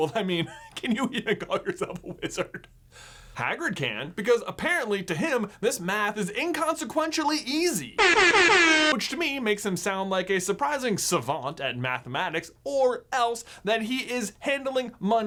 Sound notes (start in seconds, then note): 8.0 air horn